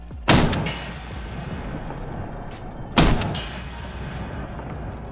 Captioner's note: slow motion gun firing